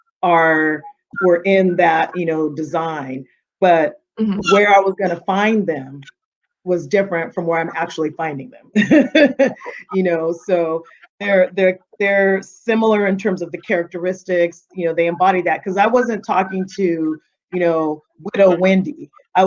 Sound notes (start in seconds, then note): 8.8 laughing